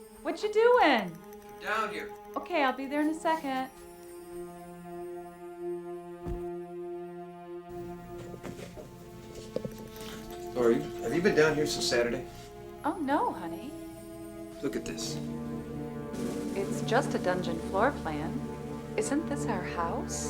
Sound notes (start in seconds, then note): 4.5 tense music continues; 6.2 cat thuds; 7.8 tense music continues